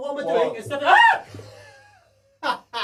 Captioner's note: screams; laughs